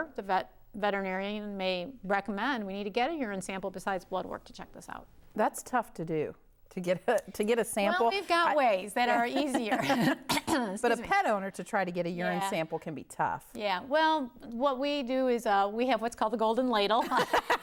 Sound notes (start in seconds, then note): 9.2 coughing